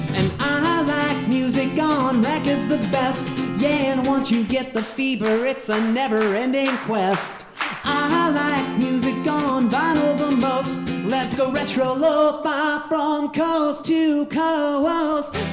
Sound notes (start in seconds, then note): 7.0 audience clapping